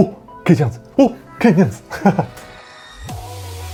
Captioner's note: laughs